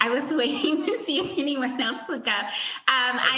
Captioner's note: laughs